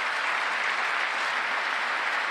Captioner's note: applause